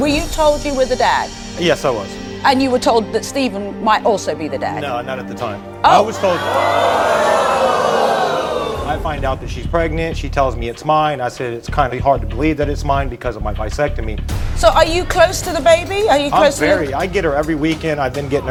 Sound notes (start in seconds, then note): 7.6 audience gasping